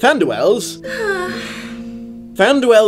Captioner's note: sighs blissfully